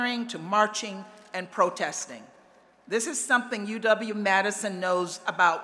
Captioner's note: none